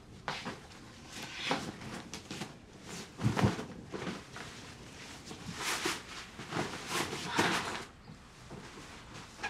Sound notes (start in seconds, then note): 5.0 sheets rustling